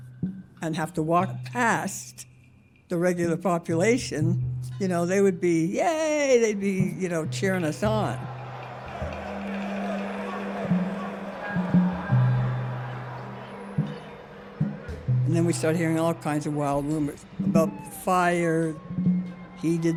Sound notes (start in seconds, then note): 8.3 excited chatter